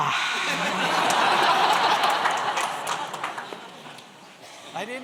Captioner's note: laughter